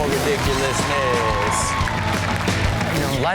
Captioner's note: audience cheers; theme music plays